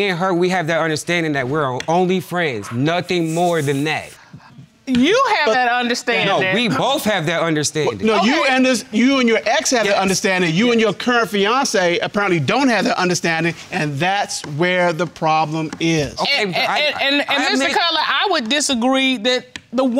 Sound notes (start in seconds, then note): none